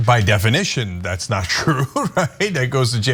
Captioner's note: laugh